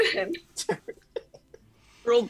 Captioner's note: laugh